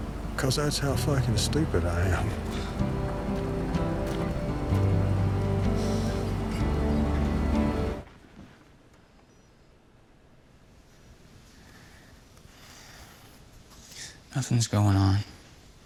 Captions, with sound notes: 'Cause that's how fucking stupid I am. [SENTIMENTAL MUSIC] [SIGHS] Nothing's going on.